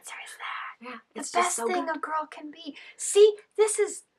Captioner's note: whispering